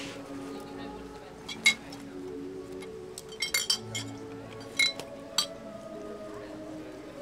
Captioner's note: bottles clinking